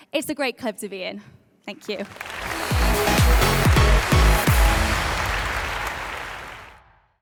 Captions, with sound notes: It's a great club to be in. Thank you. (audience applauds)